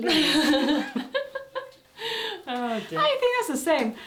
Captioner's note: laughter